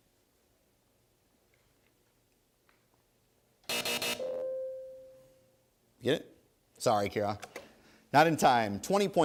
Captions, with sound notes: (three buzzes) (ding) You get it? Sorry, Kiara, not in time.